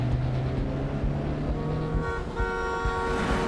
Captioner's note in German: langes hupen